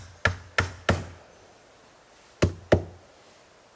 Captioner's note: loud hammering